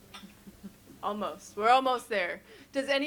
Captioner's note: chuckles